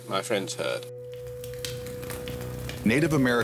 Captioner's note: fire crackling